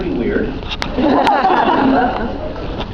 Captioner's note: laughs